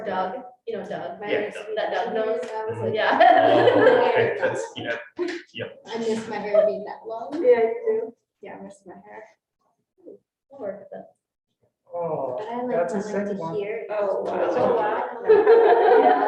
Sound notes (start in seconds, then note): 2.8 woman laughing